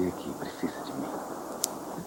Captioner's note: car outside